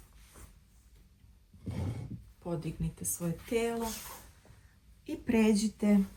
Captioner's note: snort